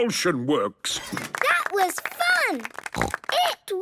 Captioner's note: applause